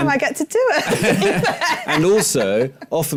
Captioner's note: laughter